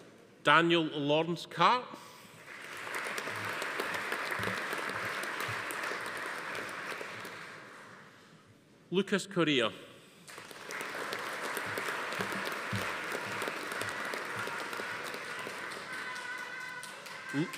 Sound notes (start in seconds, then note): 2.4 audience applauding; 10.2 audience applauding